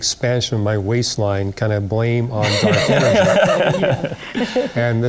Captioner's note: laughter